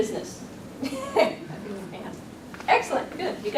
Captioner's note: laughs